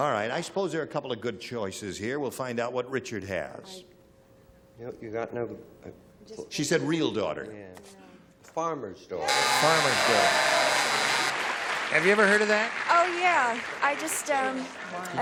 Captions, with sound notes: All right, I suppose there are a couple of good choices here. We'll find out what Richard has. -You got no-- -She said real daughter. -Farmer's daughter. (buzzer) (applause) -Have you ever heard of that? -Oh, yeah. I just went blank.